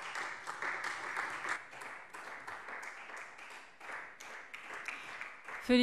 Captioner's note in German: Beifall Freie Demokraten und vereinzelt SPD